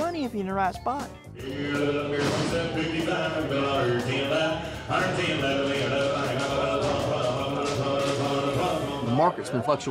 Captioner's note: auctioneer speaking rapidly